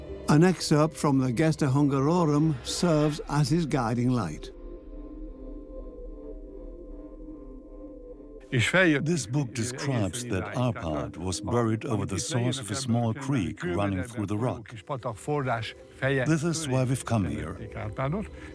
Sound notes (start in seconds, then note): 8.3 dubbed in English